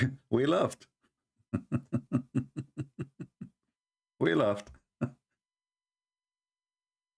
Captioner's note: Ketawa